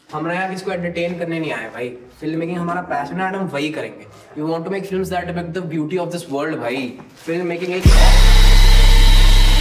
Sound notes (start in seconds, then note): 2.0 more pretentious ranting